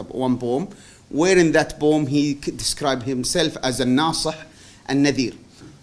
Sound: non-english

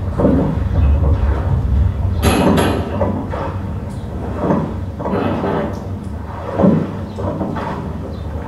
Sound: sawing & banging noises

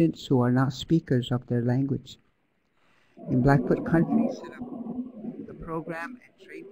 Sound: background noise distortion

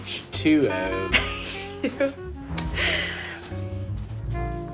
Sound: Sam chuckles

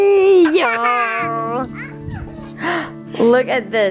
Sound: laughs

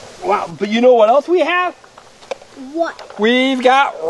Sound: voiceover

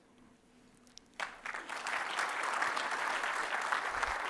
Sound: applause

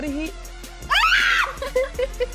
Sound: screaming; laughing

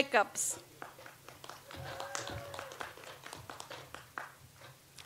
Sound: audience applauds

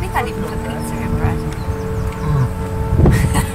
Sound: laughter

